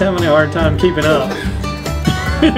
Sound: laughing

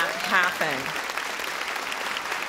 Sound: audience applause

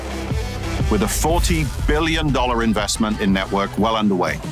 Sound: wave rumbles

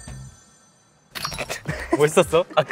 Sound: laughs

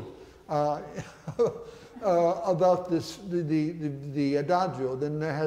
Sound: chuckles

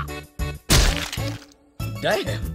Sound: smack

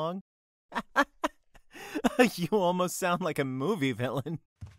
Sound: laughs

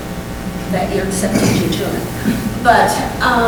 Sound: coughing

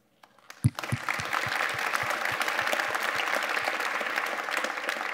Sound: audience applauding

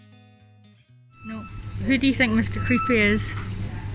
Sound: Screech

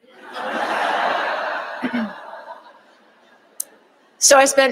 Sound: audience laughing

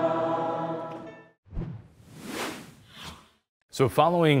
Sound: words swooshing

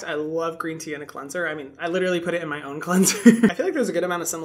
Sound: laughing

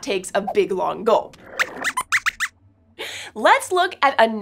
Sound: squeaks squeaks

